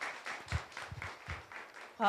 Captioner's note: applause